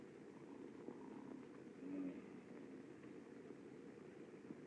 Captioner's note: snoring